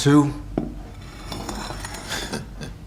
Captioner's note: plate scraping across the floor; laughing